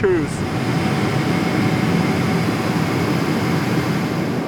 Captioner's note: equipment humming